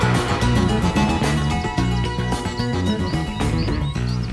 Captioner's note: birds tweeting